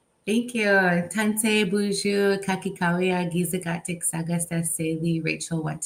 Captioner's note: speaks in Anishinaabe